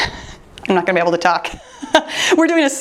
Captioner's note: laughing